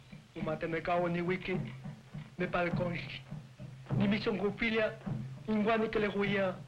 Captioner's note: tribal priest speaking in native language